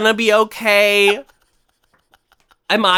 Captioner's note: laughs